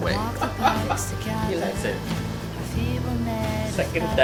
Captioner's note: laughing